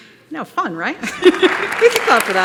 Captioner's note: applause